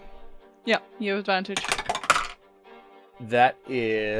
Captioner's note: Dice tower clacks